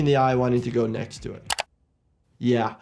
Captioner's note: mouse clicking